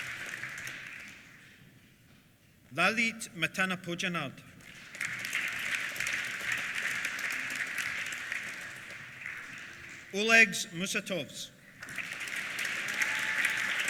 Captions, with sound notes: Lalit Matanapojanard. (APPLAUSE) Olegs Musatovs. (CHEERS) (APPLAUSE)